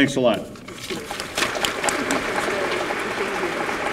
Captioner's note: applause